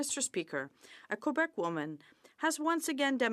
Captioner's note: speaking French